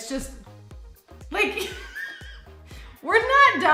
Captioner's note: laughing